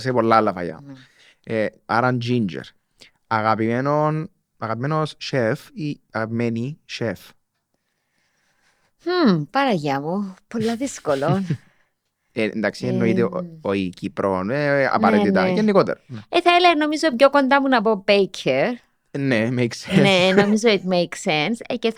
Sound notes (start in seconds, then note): 10.6 he laughs